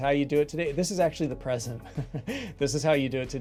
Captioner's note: chuckling